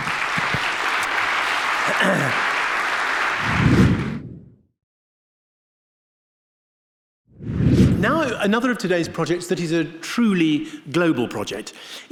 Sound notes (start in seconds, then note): 0.0 audience clapping; 3.7 air swooshing